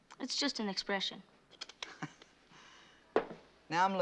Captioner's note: chuckles